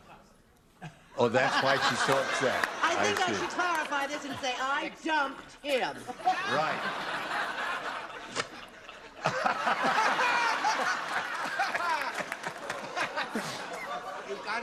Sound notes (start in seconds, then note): 11.4 laughter; 13.5 laughter